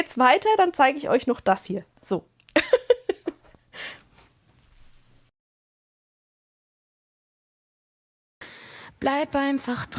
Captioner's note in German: gelächter